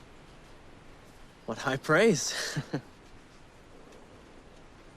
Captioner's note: laughs